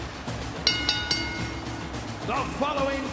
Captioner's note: bell rings